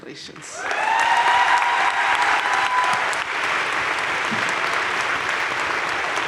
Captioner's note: crowd cheering and applauding